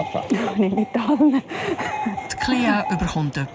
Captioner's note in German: Lachend